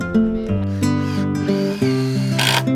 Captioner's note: drill whirs